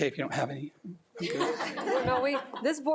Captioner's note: laughing